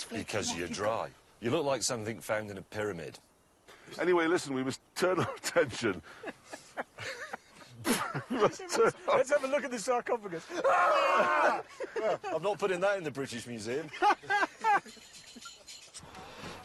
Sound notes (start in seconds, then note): 5.1 richard laughs; 15.0 richard guffaws